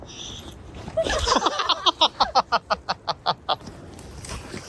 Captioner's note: laugh